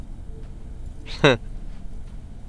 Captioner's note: Anuj giggling